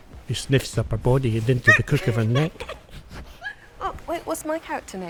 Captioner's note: laughter